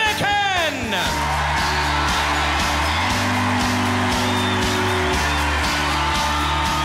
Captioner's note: audience cheering and applauding